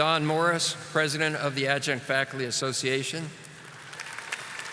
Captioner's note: audience applauding